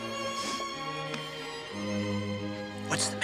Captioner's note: Rebecca sniffs